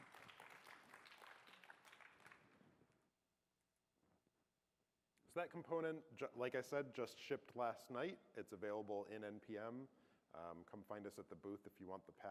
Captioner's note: applause